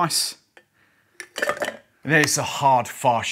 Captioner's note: ice clinking